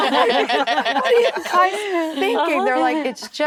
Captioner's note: actresses laughing